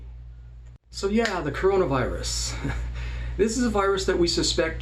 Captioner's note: chuckles